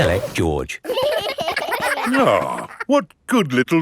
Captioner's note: giggling